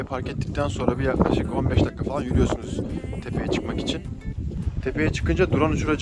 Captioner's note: wind